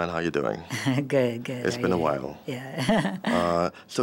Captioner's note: laughs